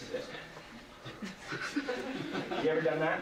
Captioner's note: laughter